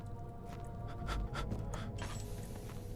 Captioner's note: Daniel breathing shakily